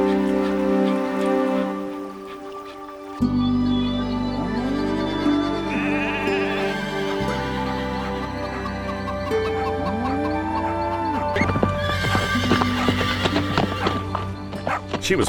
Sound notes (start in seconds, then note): 1.9 Clementine panting; 3.8 gentle music; 4.4 cattle mooing; 5.4 sheep bleating; 9.0 chickens clucking; 11.8 hooves clopping; 11.8 horse neighs